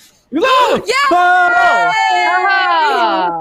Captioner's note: cheers